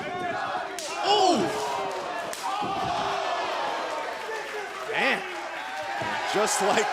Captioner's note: crowd cheering